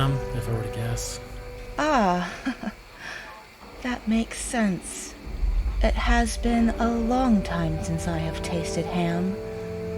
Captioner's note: chuckling